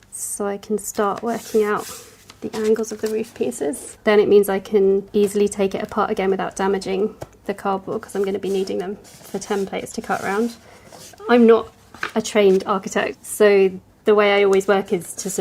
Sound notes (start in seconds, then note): none